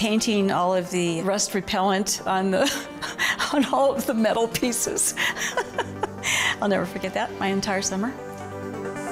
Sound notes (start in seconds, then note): 5.2 laughs